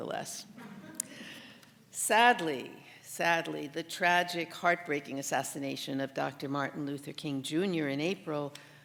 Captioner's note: laughter